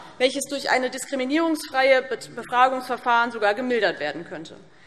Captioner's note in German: none